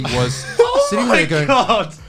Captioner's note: all laughing